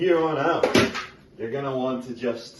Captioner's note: crash